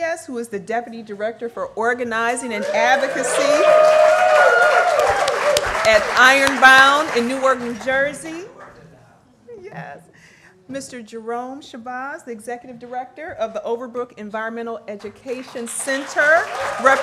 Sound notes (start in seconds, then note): 2.6 applause